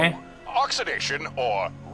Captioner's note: sighs